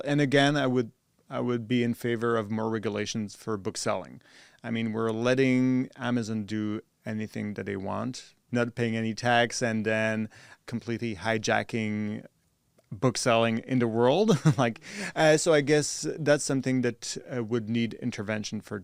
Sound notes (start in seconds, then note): 14.2 chuckles